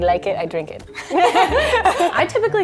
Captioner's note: laughing